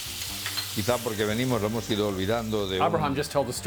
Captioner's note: speaking Spanish